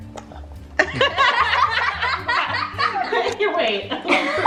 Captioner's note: family laughs